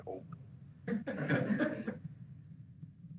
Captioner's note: laughter